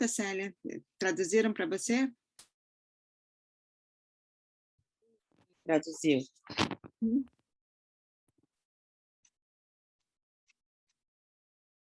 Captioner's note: silence